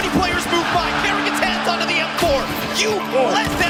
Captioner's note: gun firing